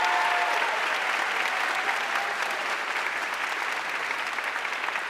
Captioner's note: audience cheering and applauding